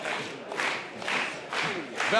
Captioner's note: clapping